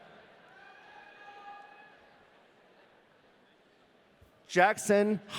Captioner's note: audience cheering